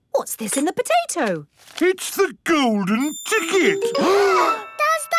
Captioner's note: gasps